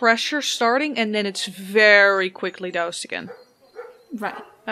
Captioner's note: faint dog barking